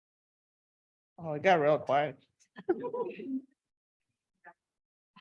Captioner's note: people laughing